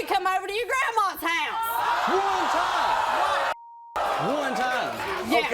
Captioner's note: audience gasping